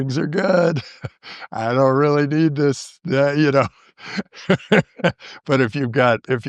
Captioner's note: laughter